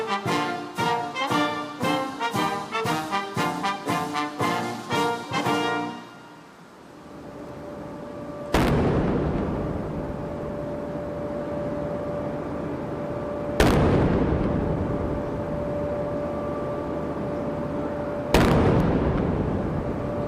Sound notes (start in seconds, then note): 8.5 cannon firing; 13.6 cannon firing; 18.3 cannon firing